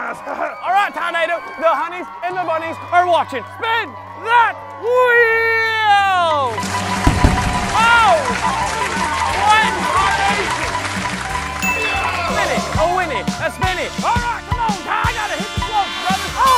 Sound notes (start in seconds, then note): 5.9 beeping